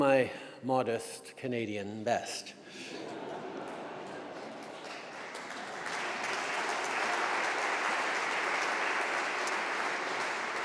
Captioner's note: laughter & applause